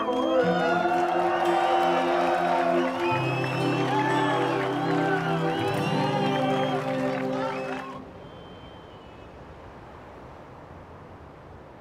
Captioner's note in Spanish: Aplausos